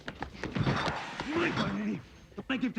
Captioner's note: bottles clinking